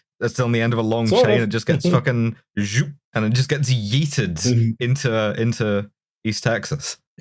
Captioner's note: zhoop